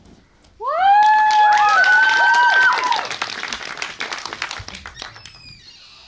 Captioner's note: applause